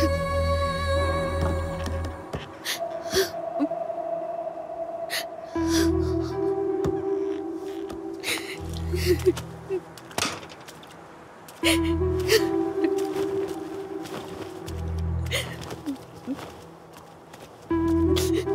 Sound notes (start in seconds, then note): 2.6 crying